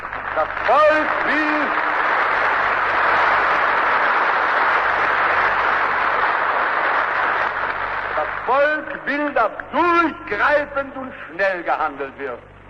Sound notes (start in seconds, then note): 1.6 applause